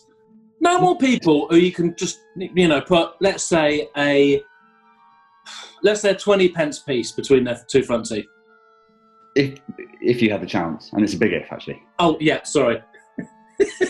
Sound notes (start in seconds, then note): 5.4 sighs